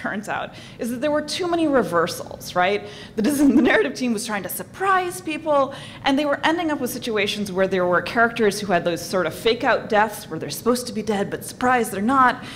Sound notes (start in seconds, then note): 3.3 laugh